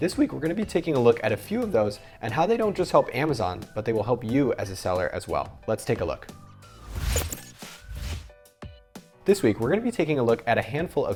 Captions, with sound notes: This week we're gonna be taking a look at a few of those, and how they don't just help Amazon, but they will help you as a seller, as well. Let's take a look. (whooshing) This week we're gonna be taking a look at a handful